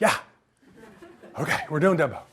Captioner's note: audience laughs